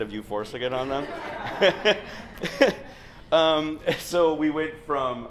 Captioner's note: laughter